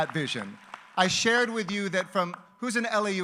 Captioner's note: applause